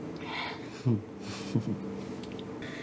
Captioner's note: chuckles